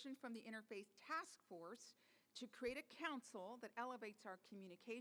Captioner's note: none